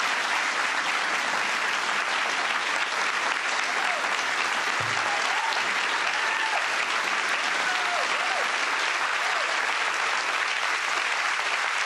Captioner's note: applause